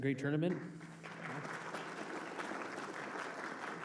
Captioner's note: applause